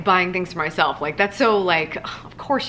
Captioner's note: gasping